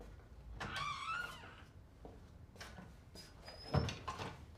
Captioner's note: door creaking